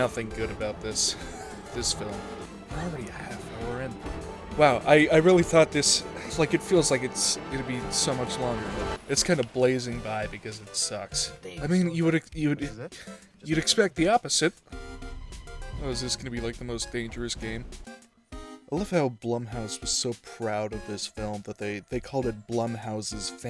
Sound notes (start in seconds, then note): 0.0 wheeze; 12.7 scoff